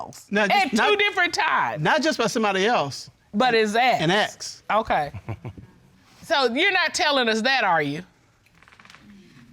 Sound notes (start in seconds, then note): 5.1 chuckling